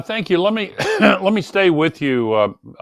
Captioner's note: Gore coughing